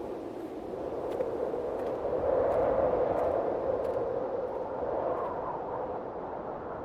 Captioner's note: wind whistling continues; footsteps crunching